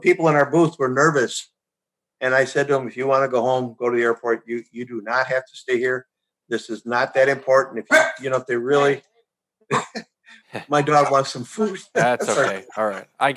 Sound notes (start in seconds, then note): 7.9 dog barks; 11.6 chuckles